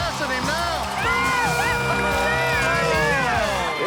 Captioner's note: yelling